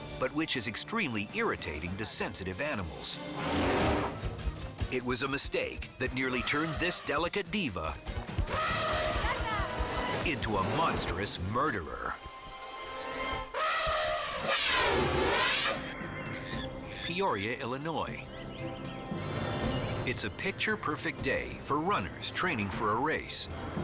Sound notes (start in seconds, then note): 3.2 elephant roars; 8.4 elephant trumpets; 13.4 elephant trumpets; 18.2 bird squawking